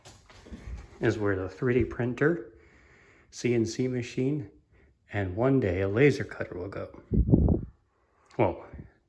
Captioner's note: wind noise